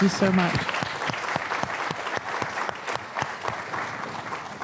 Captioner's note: applause